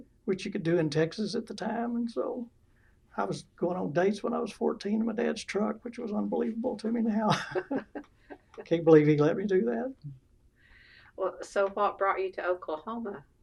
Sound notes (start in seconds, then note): 7.0 laughter